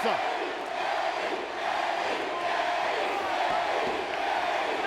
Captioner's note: audience chanting